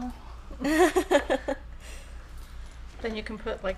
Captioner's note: laughing